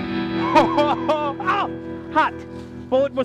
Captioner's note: Jonas laughs